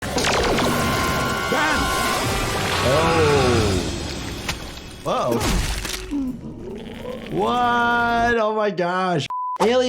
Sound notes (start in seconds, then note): 0.1 cross-fade crackles; 5.3 creature thumps